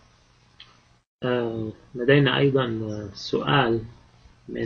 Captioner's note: speaking Arabic